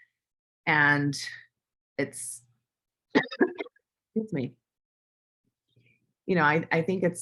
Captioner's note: cough